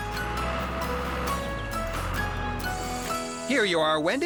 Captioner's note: engine Running